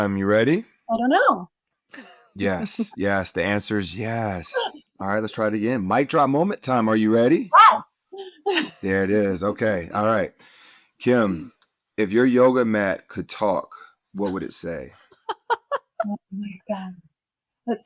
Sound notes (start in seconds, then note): 15.1 laughter